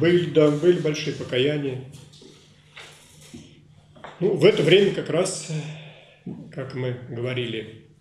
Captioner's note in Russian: голоса на заднем фоне